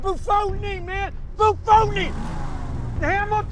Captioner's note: engine revs